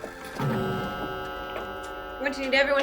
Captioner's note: clock Chimes